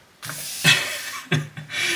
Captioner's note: laughs